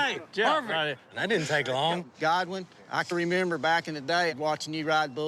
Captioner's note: none